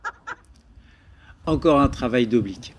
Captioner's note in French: rires